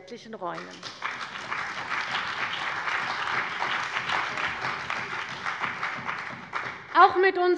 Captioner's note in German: Beifall bei der CDU und dem BÜNDNIS 90/DIE GRÜNEN